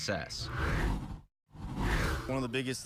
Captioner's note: air whooshes